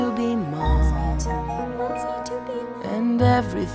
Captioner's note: Pebbles echo last words